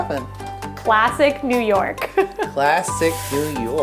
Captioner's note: chuckles